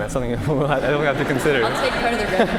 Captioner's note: laughter